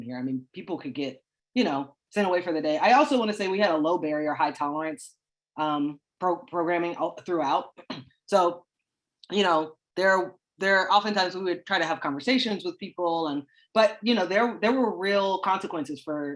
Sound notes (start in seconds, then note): 7.6 clears throat